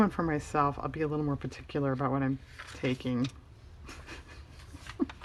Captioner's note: laughs